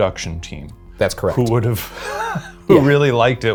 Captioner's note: laughs